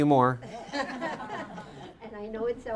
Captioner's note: laughing